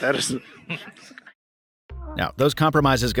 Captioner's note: laughs